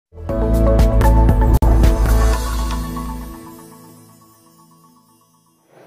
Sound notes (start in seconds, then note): 0.1 air whooshing; 0.3 upbeat music